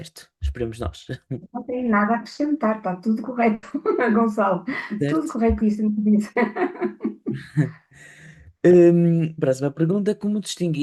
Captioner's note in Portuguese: risadas